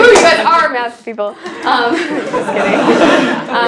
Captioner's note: laugh